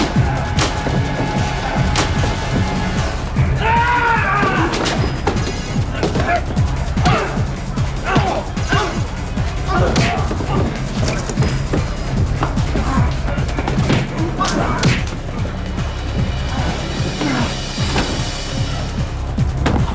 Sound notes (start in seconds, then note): 3.5 Drake screaming; 7.0 blows thudding